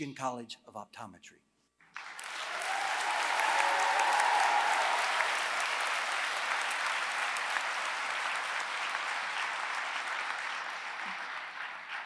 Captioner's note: applause